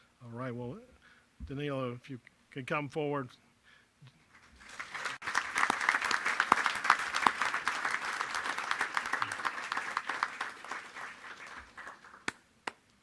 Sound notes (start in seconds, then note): 4.3 applause